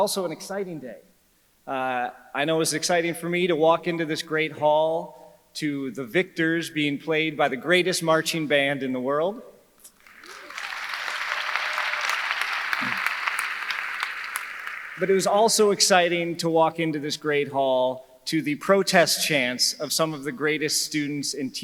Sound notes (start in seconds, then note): 10.0 audience clapping